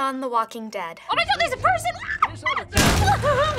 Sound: anxious squeal

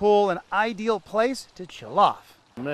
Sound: pool water splashing

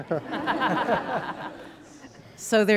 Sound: laughter

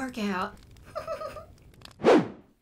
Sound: giggles

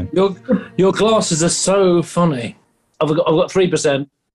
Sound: sarcastically

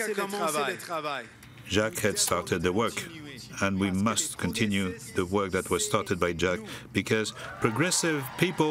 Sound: applause

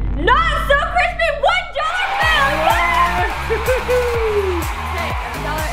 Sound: crowd cheering

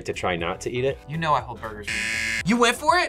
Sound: buzzer

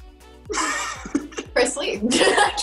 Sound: Quincy laughing

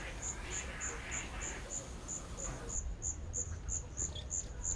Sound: forest noises

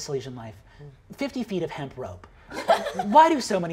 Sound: laughing

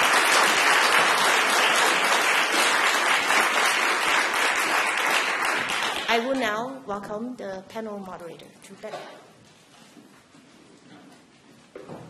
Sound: applause

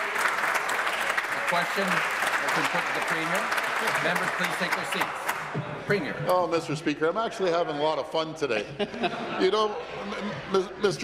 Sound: applause

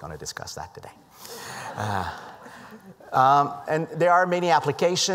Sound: laughter

